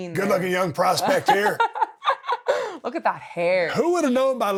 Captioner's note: Becky laughing